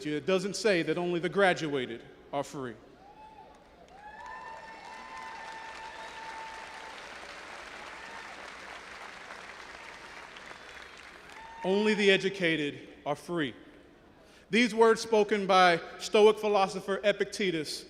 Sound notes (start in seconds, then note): 3.3 audience applauding and cheering